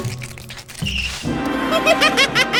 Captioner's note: laughs